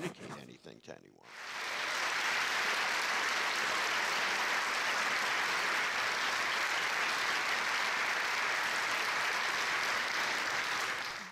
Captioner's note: audience applause